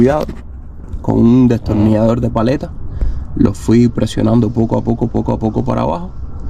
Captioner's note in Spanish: resoplido